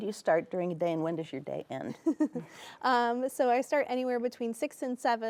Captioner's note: chuckles